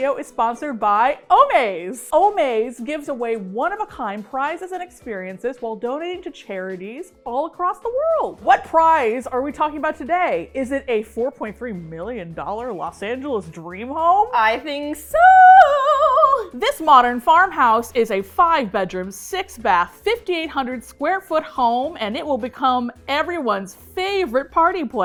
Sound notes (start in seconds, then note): 14.0 singsong